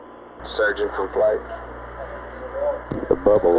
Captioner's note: mission Control Audio